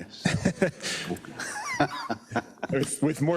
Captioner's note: laugh